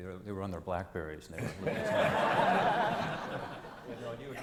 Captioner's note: crowd laughs